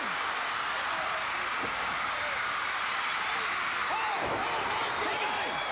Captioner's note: crowd cheering